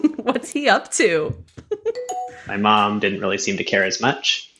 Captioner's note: bing bong sound